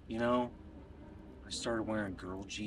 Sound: none

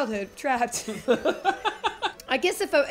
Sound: laughing

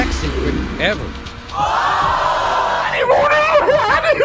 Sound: audience groaning

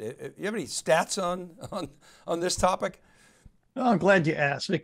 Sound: chuckles

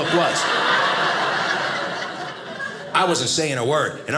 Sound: audience laughing

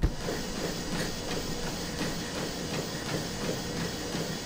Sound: machine whirring

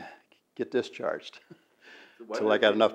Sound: laughs

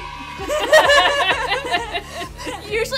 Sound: laughter

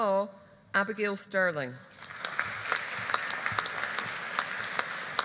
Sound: audience applauding

